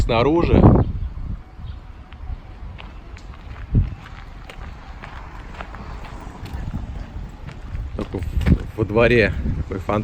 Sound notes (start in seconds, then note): 2.6 steps